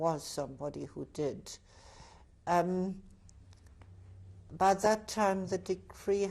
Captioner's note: pauses for 3 seconds